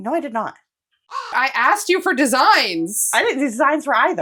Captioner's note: caw